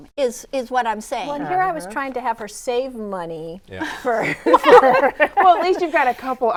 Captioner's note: laughs